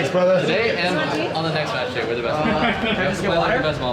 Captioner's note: all chattering